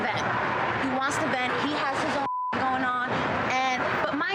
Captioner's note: beeps